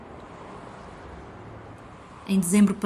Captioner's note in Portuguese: som de carros a passar